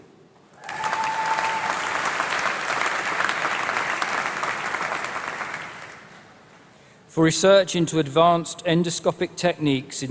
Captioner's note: applause